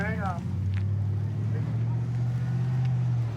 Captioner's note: truck driving